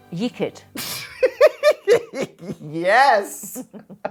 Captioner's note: laughing